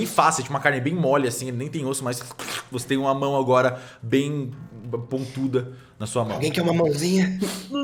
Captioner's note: squish sound